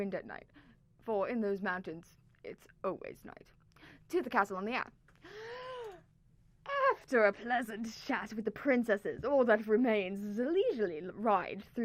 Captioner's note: breath